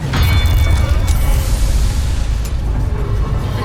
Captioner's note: attack thumps